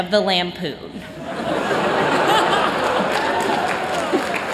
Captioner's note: laughter